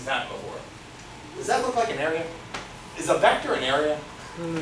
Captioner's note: none